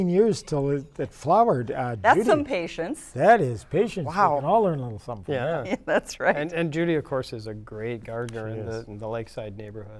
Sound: laughter

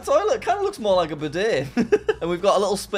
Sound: chuckles

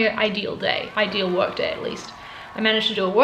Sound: background cheers

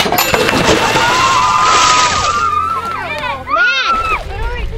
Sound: chime; girls cheering

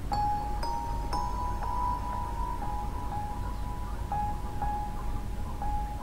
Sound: gentle, yet haunting tinkling of bells

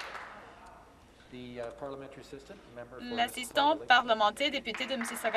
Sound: some Applause

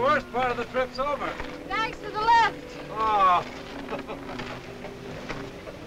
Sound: laughs

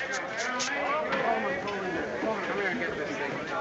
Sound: indistinct chatter

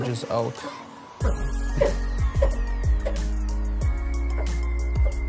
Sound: metal squeaks

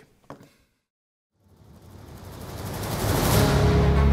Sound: clatters; intense orchestral music

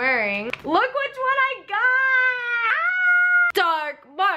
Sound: screams

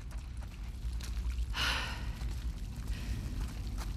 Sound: deep breath

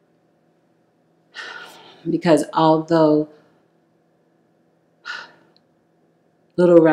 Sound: sighs loudly

